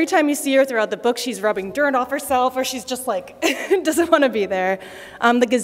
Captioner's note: laughter